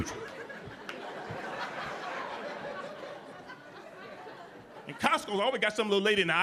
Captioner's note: audience laughing